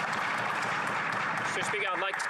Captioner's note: applause